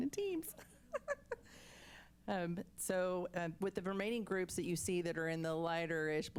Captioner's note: laughs